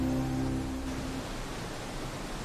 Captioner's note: insects buzzing